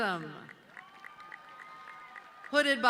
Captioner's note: audience cheering